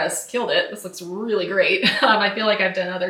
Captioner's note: laughs